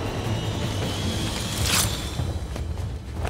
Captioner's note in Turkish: Kılıç sesi